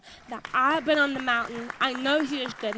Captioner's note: audience applauds